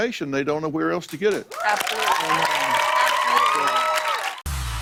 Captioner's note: cheers and applause